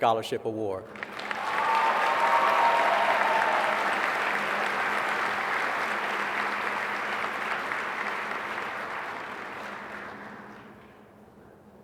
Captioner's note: applause